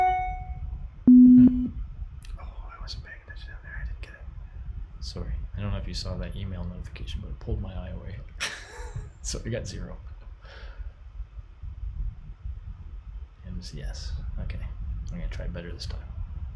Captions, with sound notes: (email notification chimes) (low tone beeps) Oh, I wasn't paying attention in there, I didn't get it. Sorry, I don't know if you saw that email notification, but it pulled my eye away (laughs). So, I got zero. M, C, S, okay, I'm gonna try better this time.